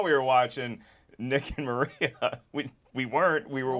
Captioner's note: chuckles